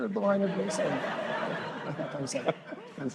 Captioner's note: laughter